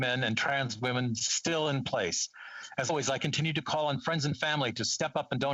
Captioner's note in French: voix de l'interprète